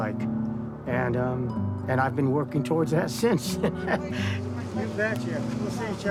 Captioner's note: laughs